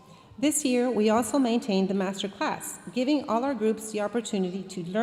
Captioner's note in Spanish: hablando en inglés